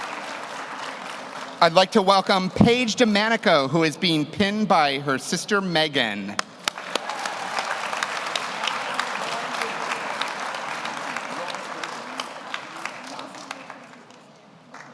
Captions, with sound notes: I'd like to welcome Paige de Manico, who is being pinned by her sister, Megan. (audience cheers) (audience applauds)